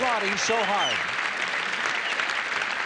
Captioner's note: applause